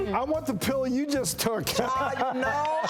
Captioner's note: laughs